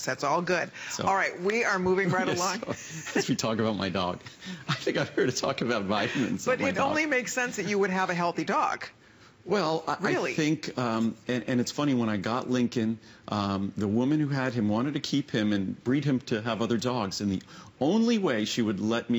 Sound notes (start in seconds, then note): 2.0 laughter